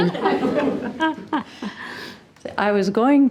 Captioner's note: all laughing